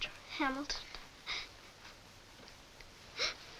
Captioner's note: crying